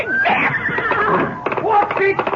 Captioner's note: screaming